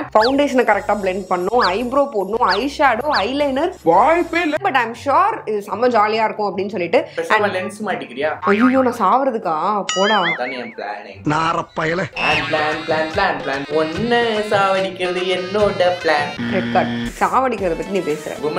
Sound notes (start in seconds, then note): 12.2 mocking her